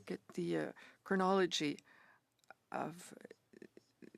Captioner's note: speaking French